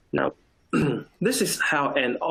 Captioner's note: clears throat